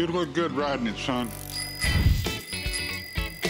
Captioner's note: bicycle bell ringing